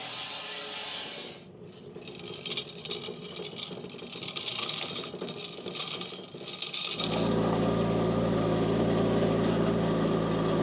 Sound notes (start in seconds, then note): 1.9 machine rattling; 7.4 forklift rumbling